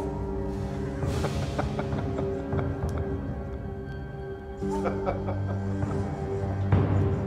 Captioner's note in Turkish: Gülme sesi